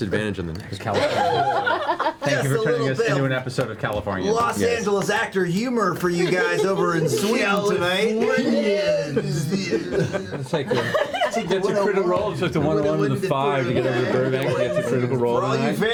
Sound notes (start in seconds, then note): 0.9 all laugh; 8.4 surfer accent